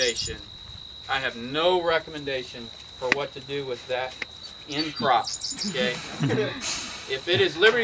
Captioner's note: crowd laughing